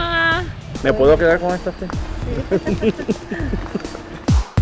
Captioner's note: laughs